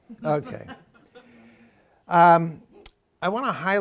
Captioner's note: laughter